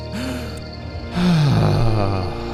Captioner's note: sighs